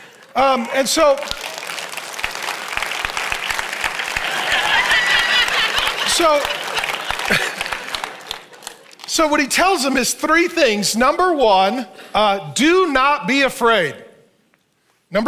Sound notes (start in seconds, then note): 1.4 congregation applauds